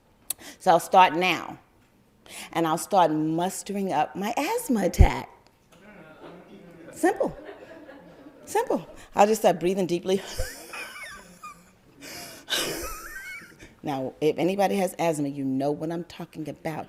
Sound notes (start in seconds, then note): 9.9 whizzing like asthma